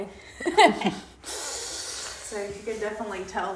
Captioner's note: chuckling; laughing